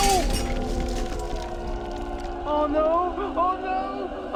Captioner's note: glass shattering